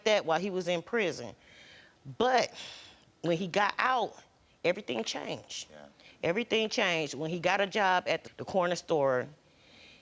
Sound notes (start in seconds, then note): none